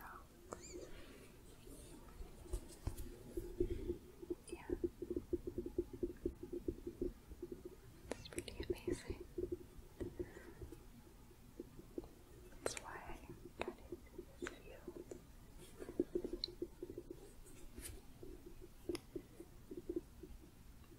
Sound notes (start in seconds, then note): 1.1 gentle shuffling, tapping; 5.2 tapping; 9.9 gentle tapping; 15.5 gentle tapping